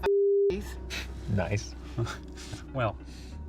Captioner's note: Brent chuckles